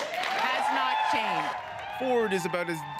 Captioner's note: applause